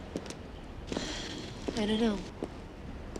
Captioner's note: exhales